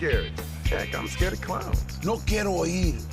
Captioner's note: speaking spanish